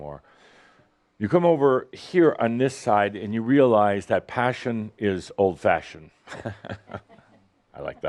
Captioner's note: chuckles